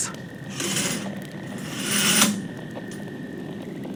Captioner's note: curtains close fx